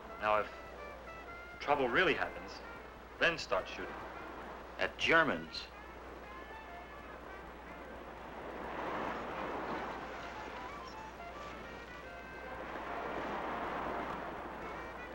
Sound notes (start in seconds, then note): 6.2 upbeat jazz music; 8.4 waves crashing